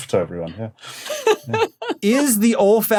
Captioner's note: laughs